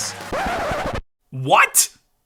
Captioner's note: record scratching